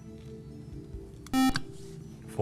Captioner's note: buzzer